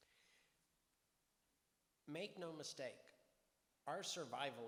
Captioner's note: none